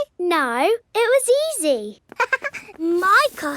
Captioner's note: chuckles